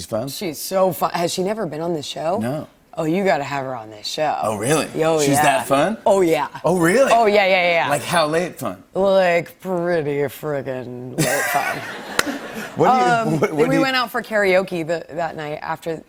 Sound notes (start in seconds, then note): 11.2 laughter